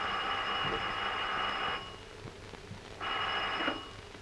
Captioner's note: phone ringing